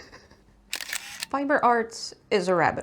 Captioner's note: shutter clicks